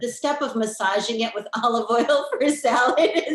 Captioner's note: laughing